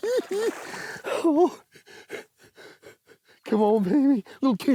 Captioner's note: laughs